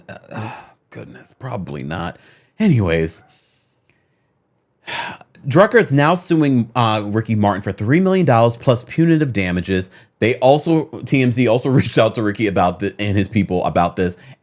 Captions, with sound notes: (sighs) Goodness, probably not. Anyways, (sighs) "Drucker's now suing Ricky Martin for $3 million, plus punitive damages." TMZ also reached out to Ricky and his people about this,